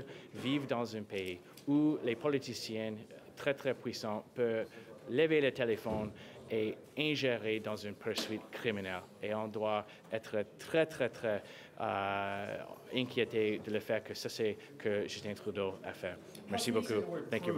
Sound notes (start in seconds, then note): 5.6 speaking french